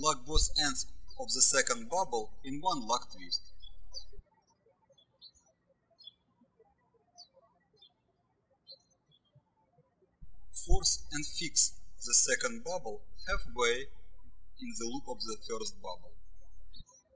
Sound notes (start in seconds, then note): 4.2 birds chirping